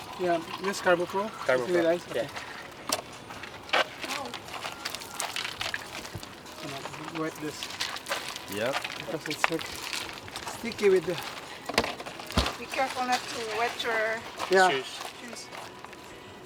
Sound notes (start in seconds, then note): 1.5 overlapping chatter; 4.0 water sploshing; 8.6 murmurs